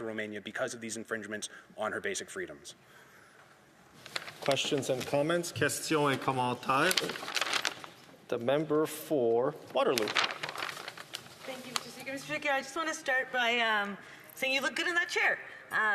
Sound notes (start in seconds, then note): 13.5 speaking French